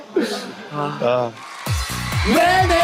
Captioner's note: sigh